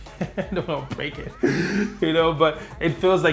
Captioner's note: laughs